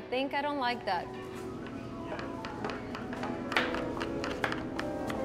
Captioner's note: knives chopping